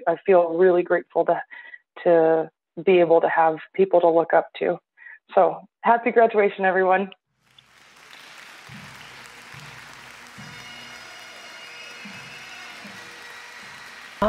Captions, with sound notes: I feel really grateful to be able to have people to look up to so happy graduation, everyone. (audience cheers and applauds) (jubilant bagpipe music)